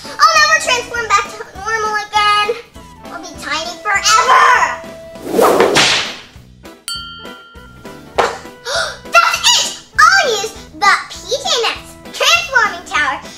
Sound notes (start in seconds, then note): 5.2 whip lashes; 6.9 bell chimes; 8.6 sighs